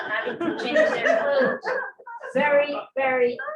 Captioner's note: laughter